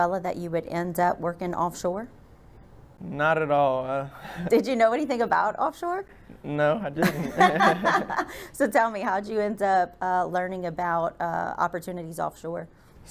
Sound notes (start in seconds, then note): 7.0 both laugh